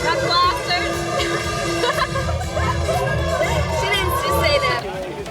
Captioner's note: both laugh